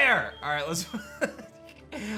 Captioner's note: laughs